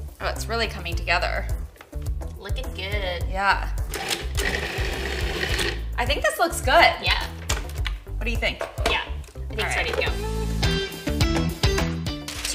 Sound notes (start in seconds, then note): 4.1 whirring; 10.4 upbeat music